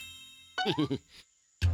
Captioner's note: chuckles